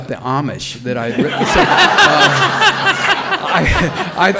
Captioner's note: all laughing loudly